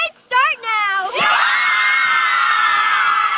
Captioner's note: cheers